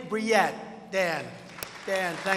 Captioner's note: applause